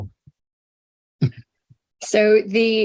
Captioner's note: chuckle